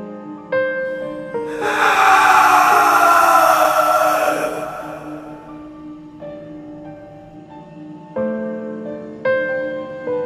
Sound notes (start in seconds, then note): 1.4 scream echoes